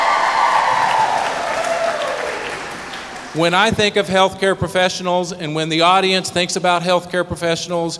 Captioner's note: cheers